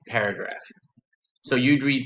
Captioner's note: silence